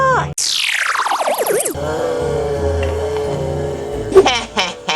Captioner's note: electronic squeal